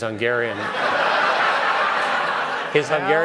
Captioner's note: laughter